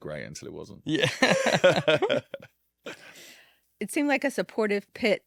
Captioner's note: group laughing